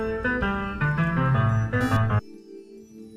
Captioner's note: buzzer